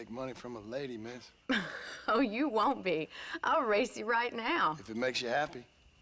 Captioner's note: laughing